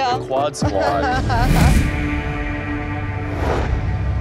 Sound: laughs

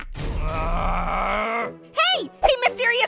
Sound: laughs; Canned Cheeseburger groans

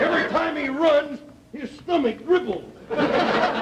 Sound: audience laughter

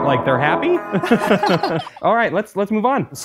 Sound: gremlin giggles

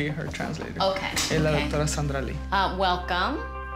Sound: speaks spanish

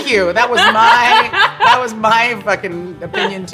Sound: laughter

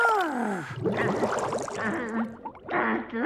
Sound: sobbing; sighing

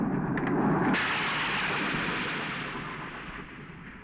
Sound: thunder crashing

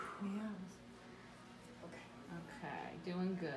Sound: sighs

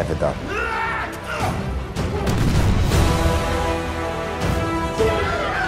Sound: yelling and explosions

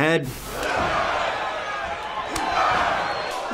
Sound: crowd cheering

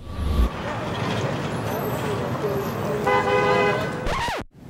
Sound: traffic noise

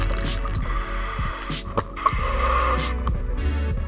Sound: breathing

